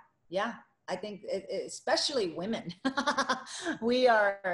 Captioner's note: laughing